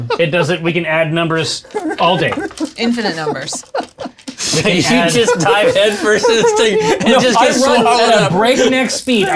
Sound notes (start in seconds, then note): 1.4 laughing